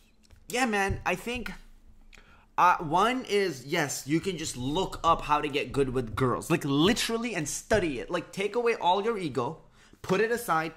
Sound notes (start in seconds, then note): none